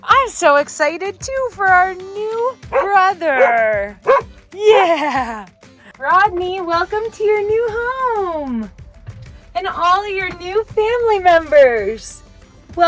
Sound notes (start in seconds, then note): 4.0 Camper barking